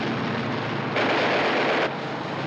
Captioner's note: firing